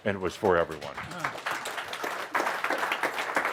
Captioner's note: audience applause